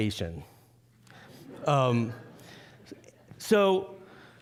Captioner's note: audience laughing